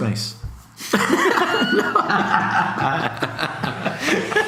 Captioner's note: laughs